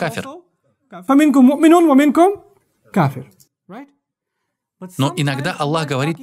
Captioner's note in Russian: Повторяет то же самое предложение и добавляет по-арабски